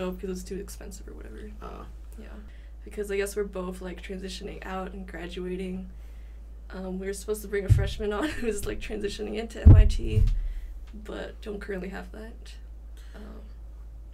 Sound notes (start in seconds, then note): 8.2 laughing